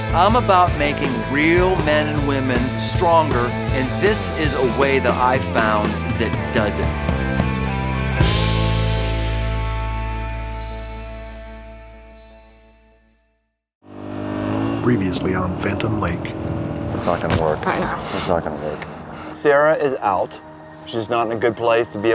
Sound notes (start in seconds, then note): 13.8 motorcycle engine humming